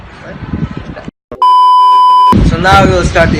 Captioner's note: instense bleeping